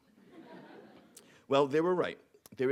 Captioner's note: audience laughing